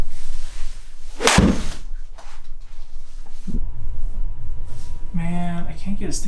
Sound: golf ball hits screen

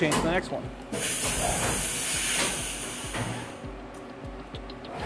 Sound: hissing air

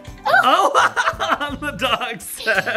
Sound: laugh

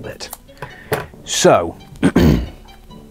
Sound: clears throat

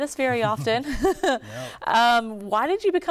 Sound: laughter

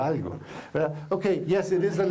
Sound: foreign language

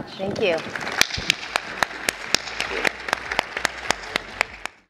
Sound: audience applauding

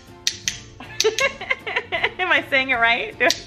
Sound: laughing

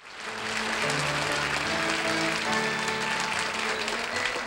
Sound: audience applauding

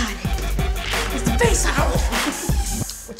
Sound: laughs

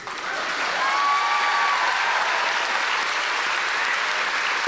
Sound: audience applause

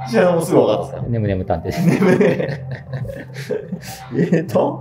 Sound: laughing

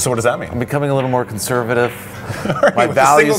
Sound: laughs

